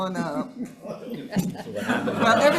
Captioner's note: attendees chuckling